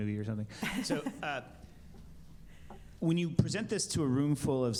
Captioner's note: laughter